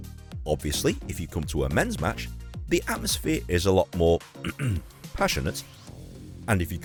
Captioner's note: ahem